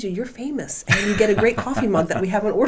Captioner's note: laughing